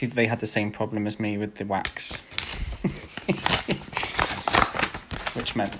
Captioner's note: laughs